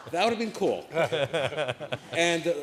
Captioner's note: laughter